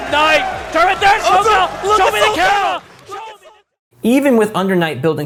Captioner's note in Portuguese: gritos da platéia